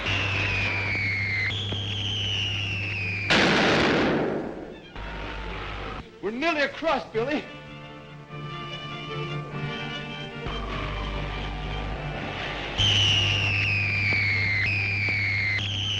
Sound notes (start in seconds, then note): 3.2 device explodes; 8.6 dramatic music continues; 15.7 device explodes